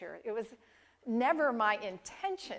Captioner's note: none